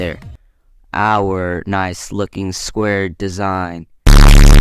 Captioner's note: triggered Sound EFFECTS